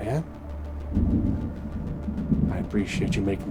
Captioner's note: tense music; thunder rumbling